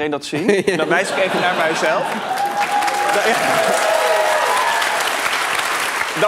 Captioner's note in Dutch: applaus en gejuich